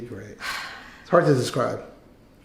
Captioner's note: sighs